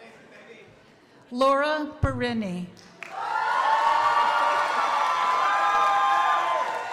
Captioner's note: crowd applauding